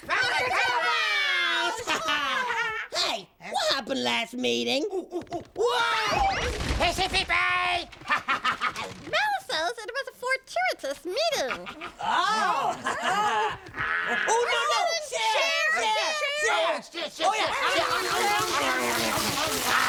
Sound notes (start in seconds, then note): 7.1 speaking gibberish